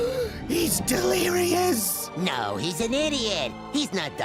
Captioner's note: gasps